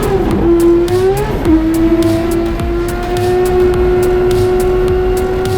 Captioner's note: race car revving continues